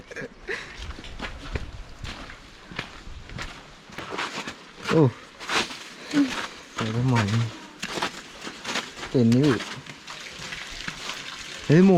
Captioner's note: walking through slush